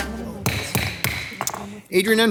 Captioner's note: gavel thudding